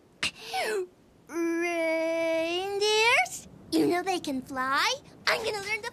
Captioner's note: none